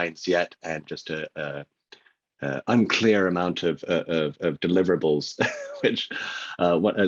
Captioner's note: laughs